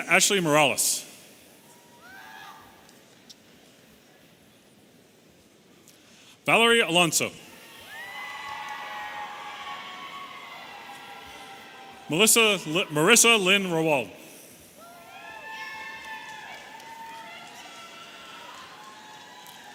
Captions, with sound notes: Maritza Ashley Morales. (audience cheering) Valerie Alonso. (audience cheering) Marissa Lynn Rawald. (audience cheering)